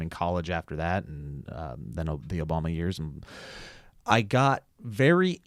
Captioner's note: breathes deeply